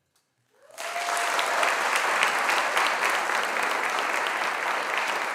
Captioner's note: audience applauding